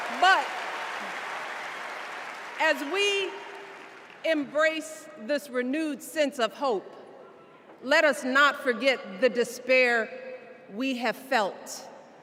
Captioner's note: cheers and applause